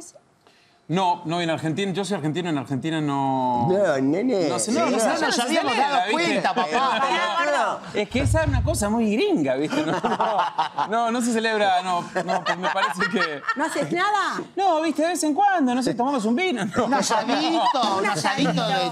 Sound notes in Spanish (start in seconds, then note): 3.4 Acento argentino